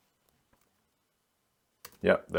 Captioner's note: silence